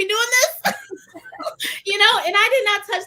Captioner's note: laughter